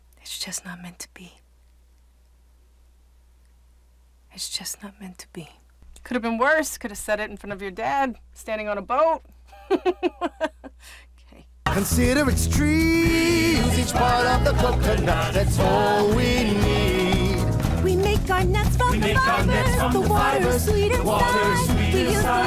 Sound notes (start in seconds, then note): 9.5 laughs